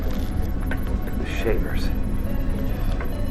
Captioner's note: voiceover